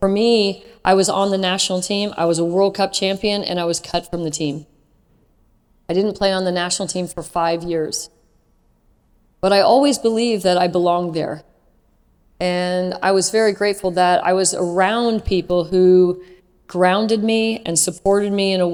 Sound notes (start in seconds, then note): none